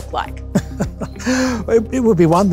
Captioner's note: laughs